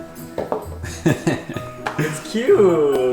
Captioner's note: laughing